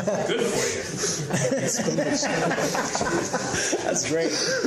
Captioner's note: laughter